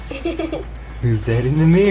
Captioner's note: laughing